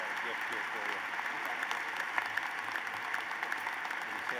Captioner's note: applause